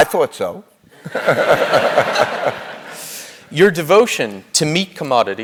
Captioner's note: laugh